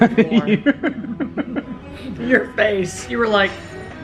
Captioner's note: both laugh